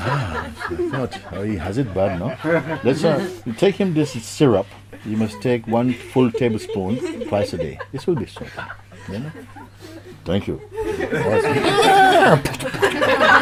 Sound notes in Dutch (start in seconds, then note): 10.1 paardengehinnik